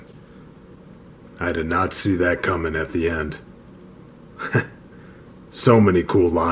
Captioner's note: chuckle